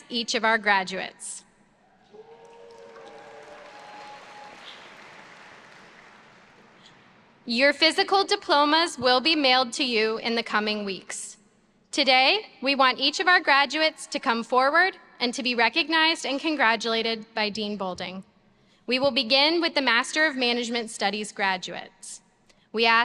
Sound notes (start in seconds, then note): 1.9 audience cheers